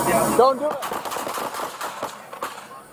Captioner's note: shots fired